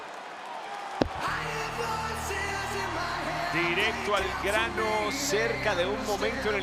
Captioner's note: applause